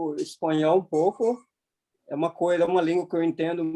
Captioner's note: toy squeaking